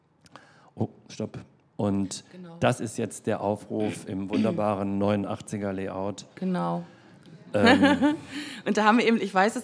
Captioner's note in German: lacht